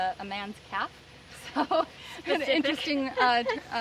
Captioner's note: laughs